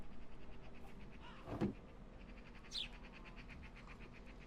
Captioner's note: text-to-speech; barrel closes; ambient animal noises